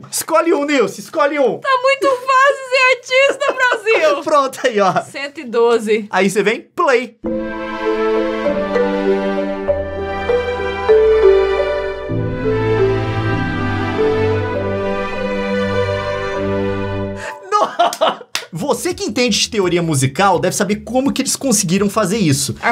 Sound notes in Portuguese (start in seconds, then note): 18.3 Clap clap